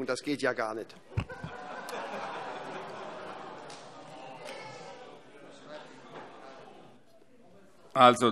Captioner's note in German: Heiterkeit